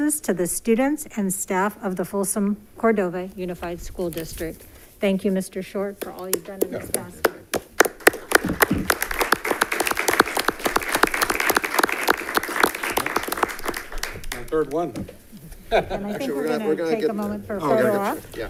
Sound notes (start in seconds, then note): 7.7 audience clapping